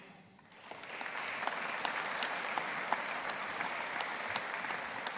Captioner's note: audience applauding